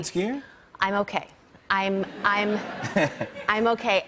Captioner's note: laughter